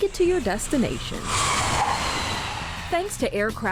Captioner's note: tires screeching